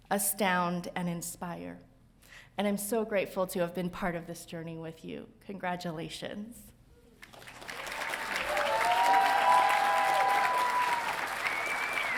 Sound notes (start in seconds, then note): 7.4 audience cheering